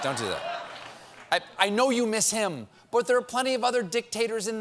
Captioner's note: laughter